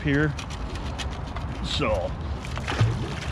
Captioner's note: fish splashing